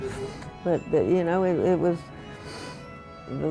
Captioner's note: laughs